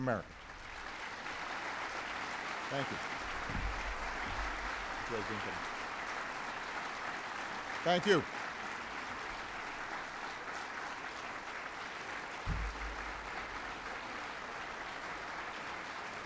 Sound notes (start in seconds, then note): 3.4 applause